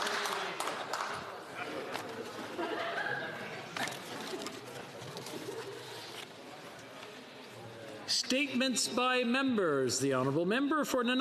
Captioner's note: applause